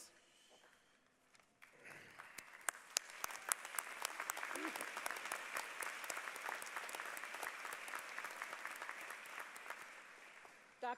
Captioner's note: applause